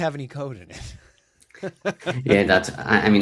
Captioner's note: laughs